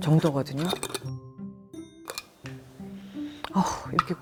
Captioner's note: smelling